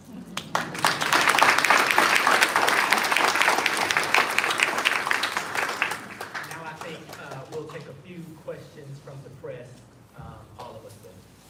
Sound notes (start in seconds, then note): 2.9 applause